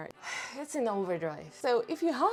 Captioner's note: sighs dramatically